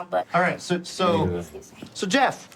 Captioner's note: none